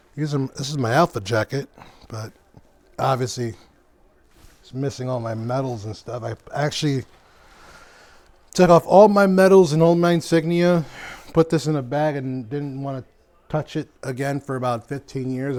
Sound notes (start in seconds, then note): none